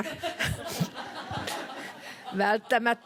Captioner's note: laughter